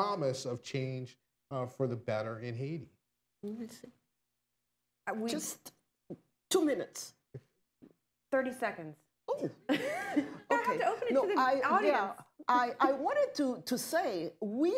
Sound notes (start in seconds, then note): 9.7 laughter